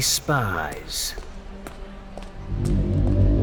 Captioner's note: footsteps leaving